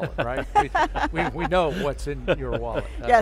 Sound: laughs

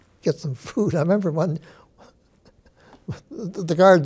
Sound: chuckles

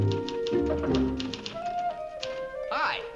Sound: knocking

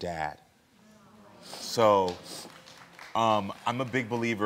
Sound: audience applauding

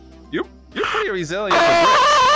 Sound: extremely pained scream

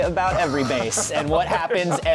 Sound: laughter

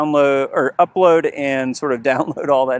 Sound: laughs

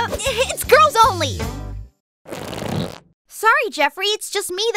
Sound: deflating sound

